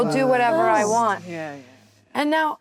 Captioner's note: actresses reacting